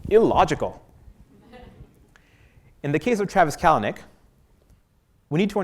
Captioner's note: laugh